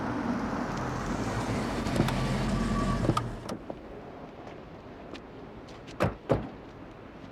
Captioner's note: none